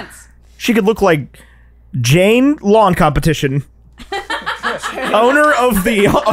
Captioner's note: laughter